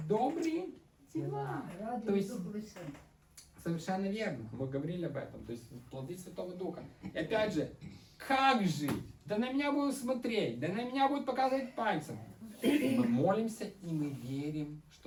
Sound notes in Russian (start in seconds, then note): 12.2 откашливается